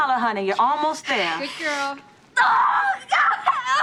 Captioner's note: screams